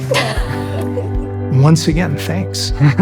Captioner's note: both laugh